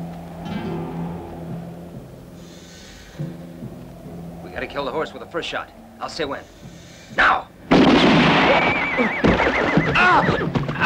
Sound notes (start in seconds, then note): 7.7 gun shots